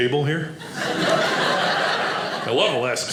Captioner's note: audience laughing